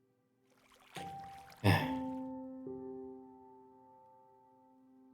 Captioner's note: sigh